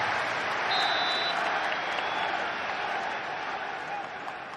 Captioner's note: crowd chanting; whistle blows; crowd quietens